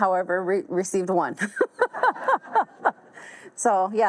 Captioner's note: all laugh